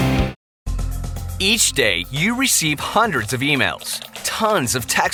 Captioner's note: rock music; voiceover